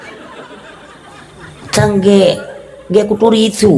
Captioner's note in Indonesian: tertawa